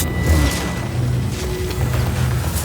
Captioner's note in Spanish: none